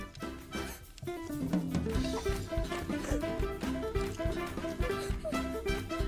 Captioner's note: girl gasps